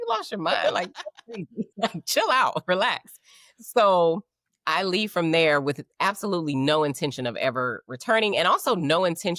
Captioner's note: laughing